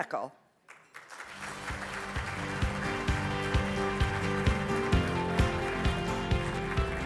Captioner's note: audience applauds; bright music